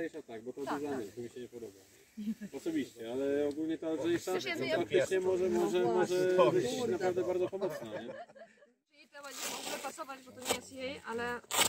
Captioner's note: chatting between the group